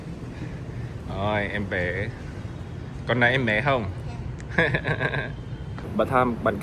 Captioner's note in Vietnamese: tiếng cười